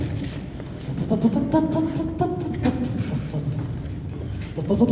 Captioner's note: humming